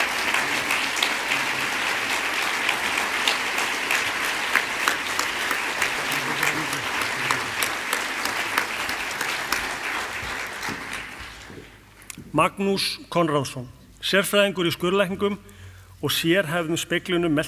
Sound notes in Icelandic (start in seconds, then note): 0.8 fagnaðarlæti; 8.0 fagnaðarlæti